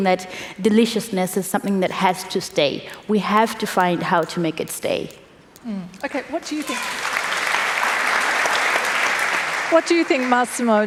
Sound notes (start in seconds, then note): 6.6 applause